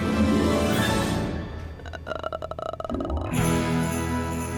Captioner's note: groans; sleigh bells jingling